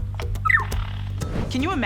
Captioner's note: bird chirping